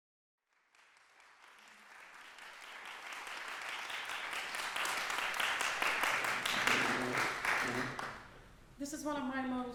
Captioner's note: applause